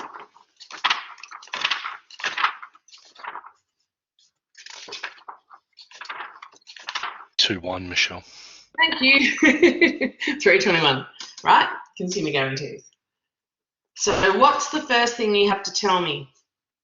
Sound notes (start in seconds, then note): 9.1 laughs